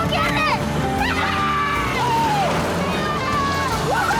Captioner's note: yelling